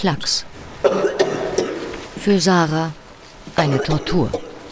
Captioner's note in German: Husten